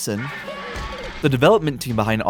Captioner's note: T-Rex roar